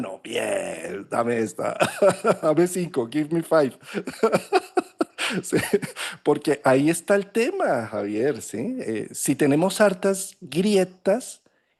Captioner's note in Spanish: risas; risas